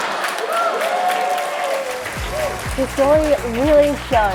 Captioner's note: laughs; applause